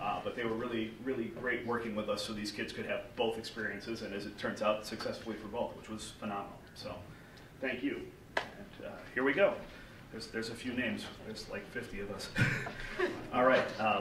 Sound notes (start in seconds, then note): 12.3 laughs